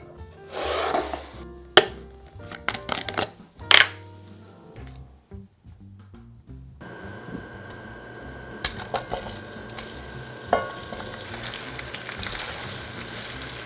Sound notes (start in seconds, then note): 9.7 sizzling